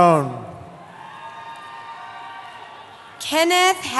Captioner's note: cheering